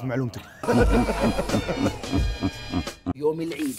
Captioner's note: smug-laughing